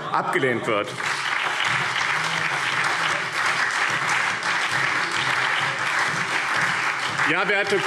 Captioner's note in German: Beifall BÜNDNIS 90/DIE GRÜNEN, CDU, SPD, Freie Demokraten und DIE LINKE